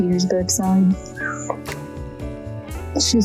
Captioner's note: bird squawk